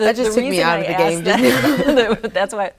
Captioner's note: laughing